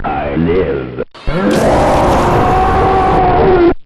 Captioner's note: loud Burst; inhuman Scream